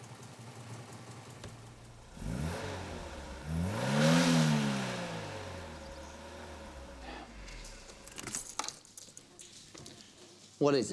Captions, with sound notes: [engine revs] What is it, Victor?